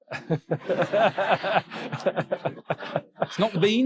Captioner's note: audience laughing